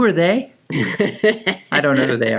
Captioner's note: laughing